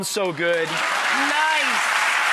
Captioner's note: audience applause